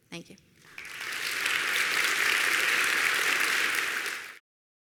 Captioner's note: audience applauding